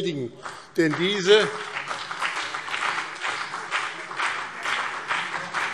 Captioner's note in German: Beifall BÜNDNIS 90/DIE GRÜNEN und CDU